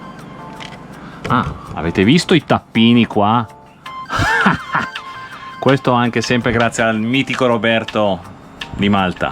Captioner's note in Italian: risate